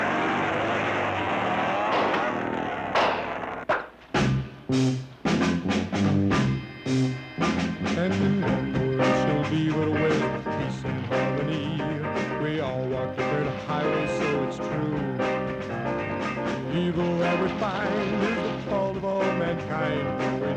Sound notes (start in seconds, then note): 3.6 popping; 6.2 uptempo pop music